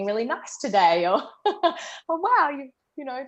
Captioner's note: laughter